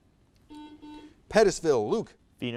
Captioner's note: buzzer buzzes